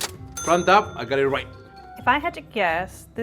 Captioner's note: ding